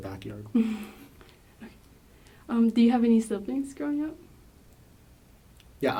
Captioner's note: laughs